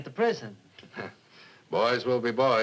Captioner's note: chuckles